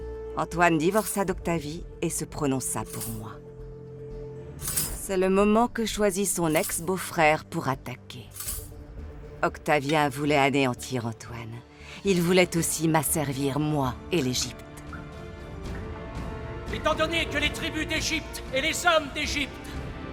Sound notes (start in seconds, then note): 4.6 metal rattling